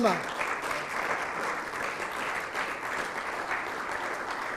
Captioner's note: audience clapping